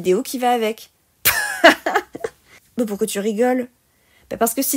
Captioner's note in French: rire